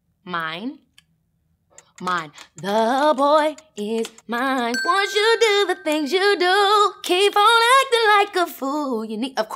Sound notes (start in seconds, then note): 4.7 ping